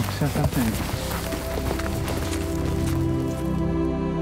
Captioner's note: shuffling, footsteps; atmospheric music